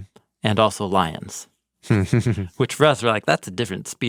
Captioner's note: chuckles